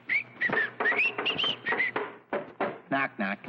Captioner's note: cartoon man whistling